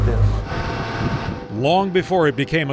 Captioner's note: boat whirring